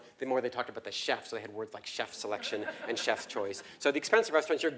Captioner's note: laugh